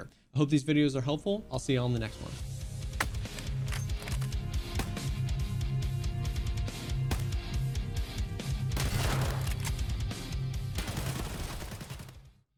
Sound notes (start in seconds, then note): 2.5 dramatic battle music; 8.9 bullets firing